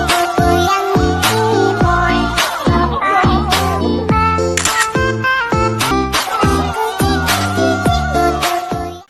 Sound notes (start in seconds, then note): 0.0 upbeat electronic music; 4.6 camera button clicks